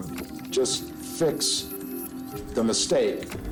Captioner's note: none